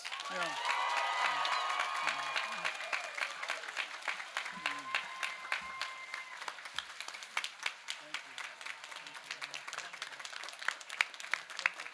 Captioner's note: cheers